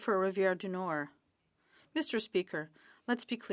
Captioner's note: speaking French